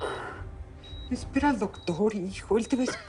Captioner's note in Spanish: Quejido